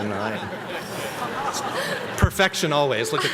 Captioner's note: everyone laughing